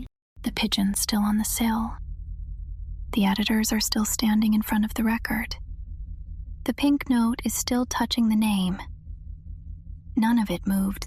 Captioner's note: whispers